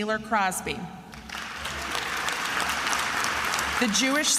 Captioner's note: attendees applauding